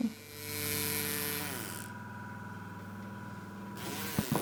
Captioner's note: whispering of varying intensity